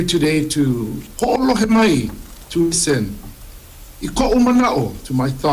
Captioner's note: speaks Hawaiian